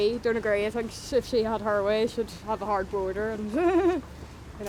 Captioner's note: laughs